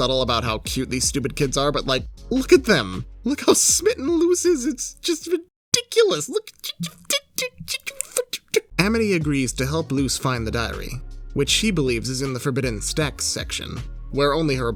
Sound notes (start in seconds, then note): 7.2 stammering